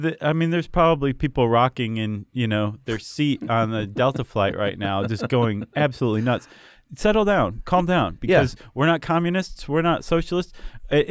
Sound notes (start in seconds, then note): 3.2 chuckling